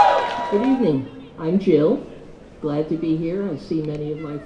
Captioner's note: cheers